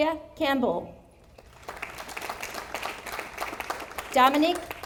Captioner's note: audience applauding